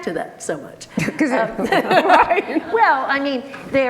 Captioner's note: both laughing